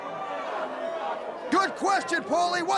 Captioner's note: crowd chatter